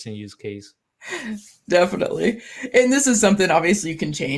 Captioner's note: laughs